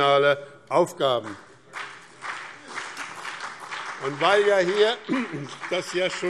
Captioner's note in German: Beifall BÜNDNIS 90/DIE GRÜNEN und CDU